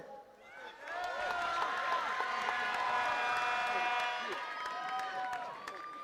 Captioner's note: attendees cheering and clapping